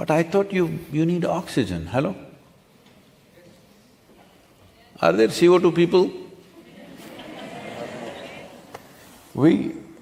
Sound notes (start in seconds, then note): 6.5 laughter